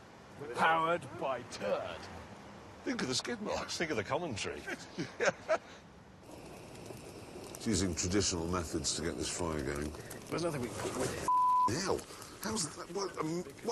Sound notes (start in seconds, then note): 4.6 laughing; 6.2 hiss of gas